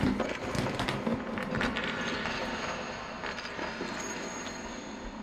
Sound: ominous noises

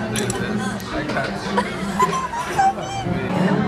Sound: giggle

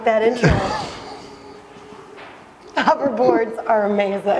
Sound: chuckle

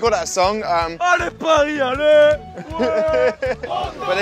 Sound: chants

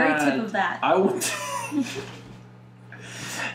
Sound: exhale

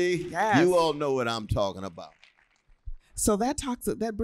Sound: applause

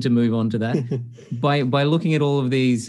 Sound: chuckles

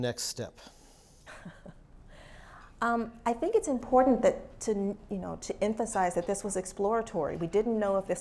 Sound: laugh

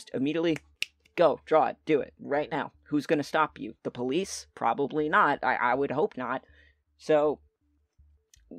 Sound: snapping fingers

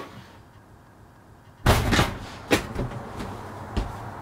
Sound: door opens

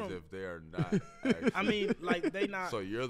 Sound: laughs

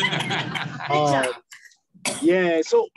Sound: laughter

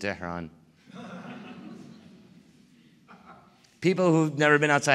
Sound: laughter

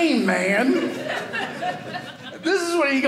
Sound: audience laughing

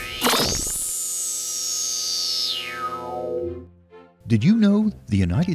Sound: sound Effects

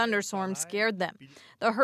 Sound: speaking French

